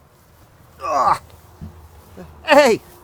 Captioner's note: grunting